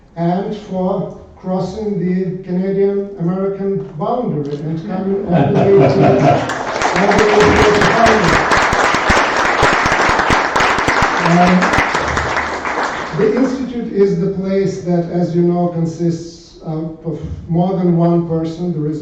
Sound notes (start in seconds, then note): 5.2 laughter; 7.3 applause